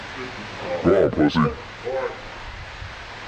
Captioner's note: pitch down